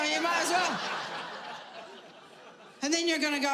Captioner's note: audience laughing